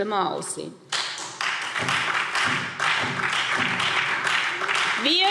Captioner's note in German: Beifall SPD und Freie Demokraten